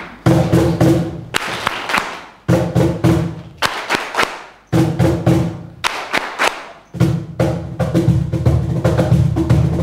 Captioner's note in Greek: χειροκρότημα